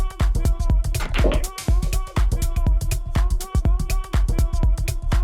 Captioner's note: balls clacking